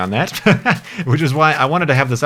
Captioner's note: laughs